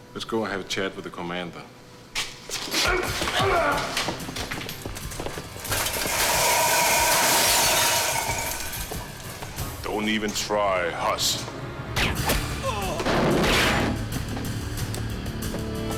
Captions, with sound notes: Let's go have a chat with the commander. Don't even try, hoss. (gun fires)